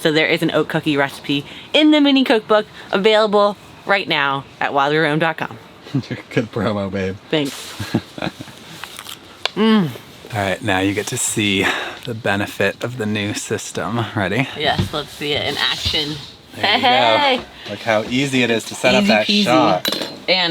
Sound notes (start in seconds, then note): 7.8 laughs; 9.6 moans delightfully